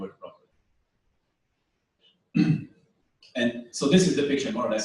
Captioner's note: pause